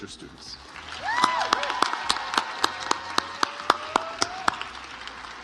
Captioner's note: audience applauds